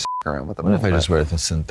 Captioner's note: beep